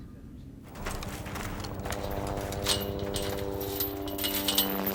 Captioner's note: plane whirring